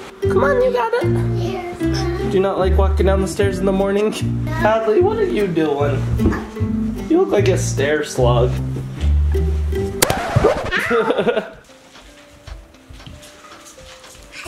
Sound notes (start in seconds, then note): 6.1 grunts; 10.0 record scratching; 10.5 laughs; 10.7 sweet music